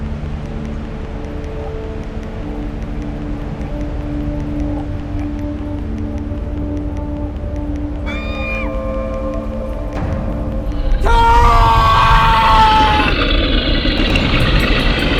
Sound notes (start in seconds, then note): 8.1 Flower screams; 12.5 bear growls